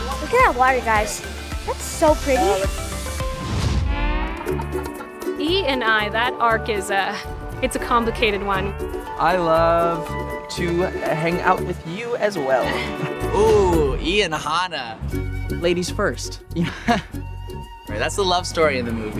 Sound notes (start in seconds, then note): 3.5 light acoustic music; 16.6 chuckles